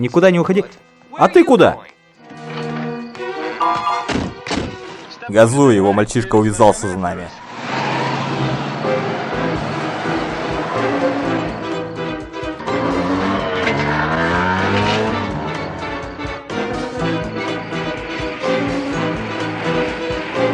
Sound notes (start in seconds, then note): 3.6 doors slamming; 14.0 engine accelerating